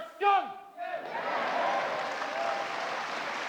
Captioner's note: crowd agreeing